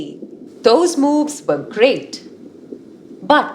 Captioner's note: underwater sounds